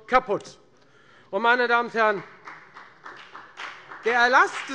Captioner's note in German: Beifall bei der FDP